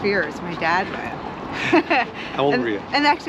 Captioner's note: laughs